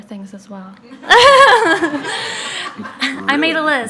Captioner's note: laughing